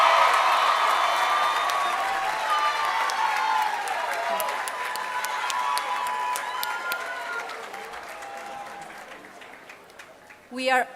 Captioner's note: cheering and applause